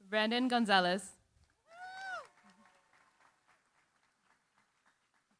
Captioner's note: applause